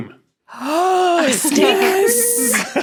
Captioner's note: gasps; group laughing